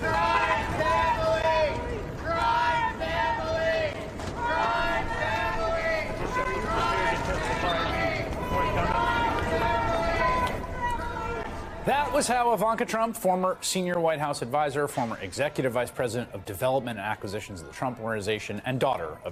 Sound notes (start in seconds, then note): 5.0 crowd chanting